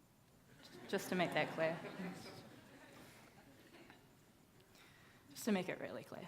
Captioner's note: audience laughing